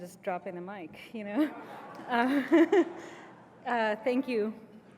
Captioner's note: laugh